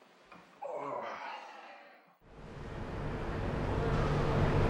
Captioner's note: groans